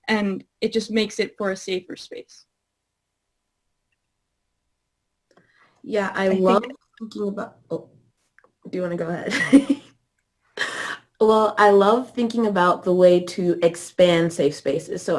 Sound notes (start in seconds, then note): 10.2 laughing